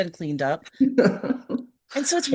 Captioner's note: laughs